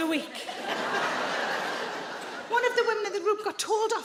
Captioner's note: audience laughing